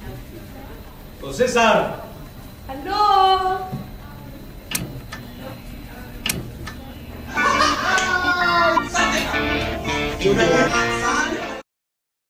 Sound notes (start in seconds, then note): 7.3 laughter